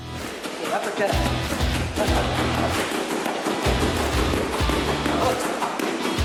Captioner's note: gloves pounding; heavy blues-rock music